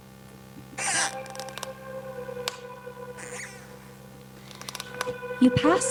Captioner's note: ominous music; door sqeaking